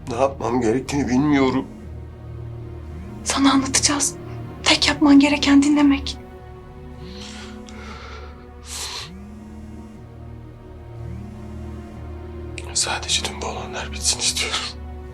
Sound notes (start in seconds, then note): 6.8 sighs